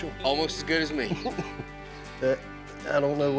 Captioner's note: chuckling